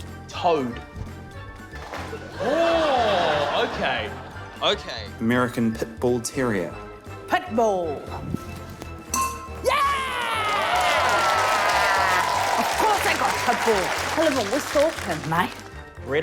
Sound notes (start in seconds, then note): 9.1 dink!; 9.6 cheering, applause